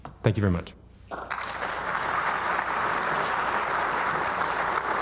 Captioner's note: audience applauding